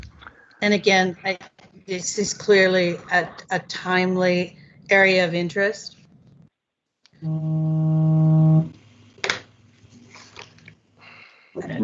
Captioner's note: phone ringing